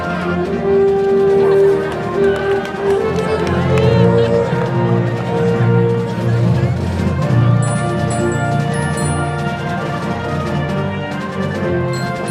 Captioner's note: applause